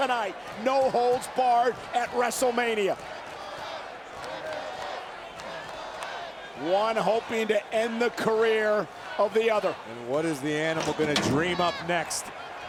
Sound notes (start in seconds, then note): 3.0 crowd clamoring and chanting indistinctly